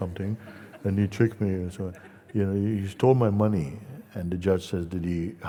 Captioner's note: laughter